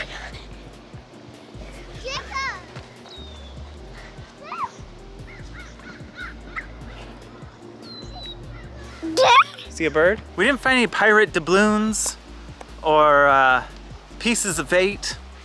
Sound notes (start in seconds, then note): 5.1 birds cawing; 9.0 coos